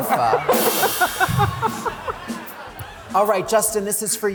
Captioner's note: laughter